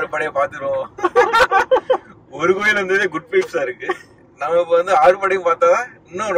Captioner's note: Laughs